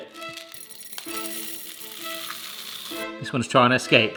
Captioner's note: corn rattling